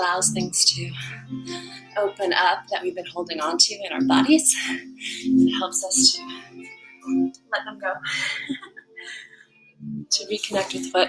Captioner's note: laugh